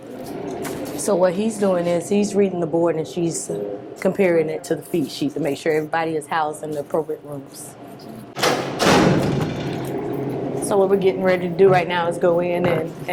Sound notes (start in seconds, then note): 8.3 door slams